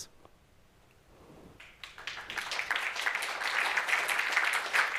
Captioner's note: applause